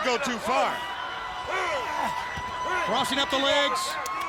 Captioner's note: hands thudding